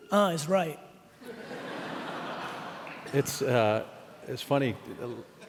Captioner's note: laughing